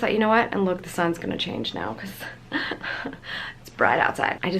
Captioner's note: chuckles